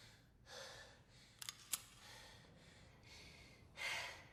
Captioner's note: gun cocking